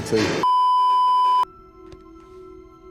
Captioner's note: beeeeeeeeeeeep